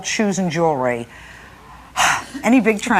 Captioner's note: sighs